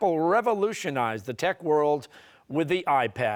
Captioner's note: none